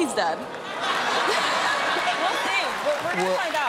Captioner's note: laughter